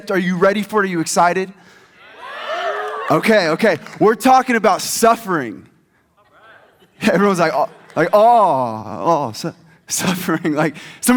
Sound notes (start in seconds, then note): 2.0 audience cheers